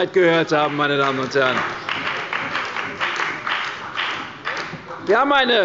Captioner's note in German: Beifall bei der CDU und der FDP